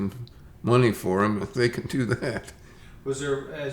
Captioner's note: chuckles